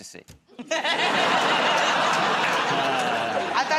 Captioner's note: laughter